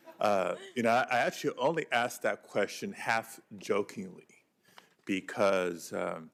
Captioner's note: laughter